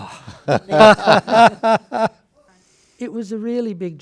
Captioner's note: panelists laugh